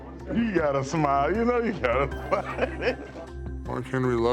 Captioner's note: laughs